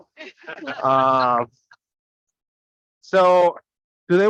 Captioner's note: people laughing